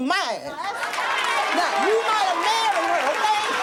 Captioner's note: audience applauding